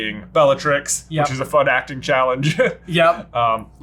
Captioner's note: chuckles